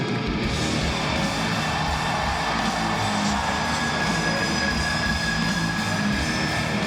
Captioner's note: audience cheering; dramatic music